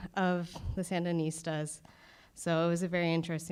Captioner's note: none